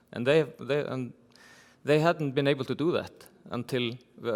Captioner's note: none